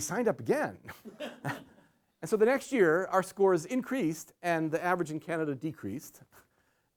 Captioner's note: laughter